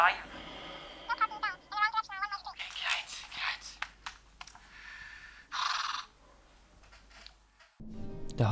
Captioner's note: phone voice and the sound of the news anchors frustration